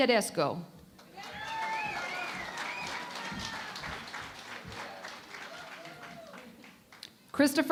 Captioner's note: cheering and Applause